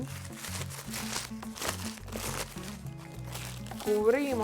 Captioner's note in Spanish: crujido del papel